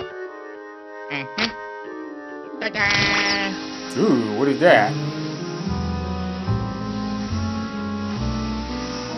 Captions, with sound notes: [Luigi chuckles] Ooh, what is that?